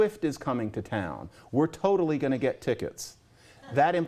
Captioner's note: laughter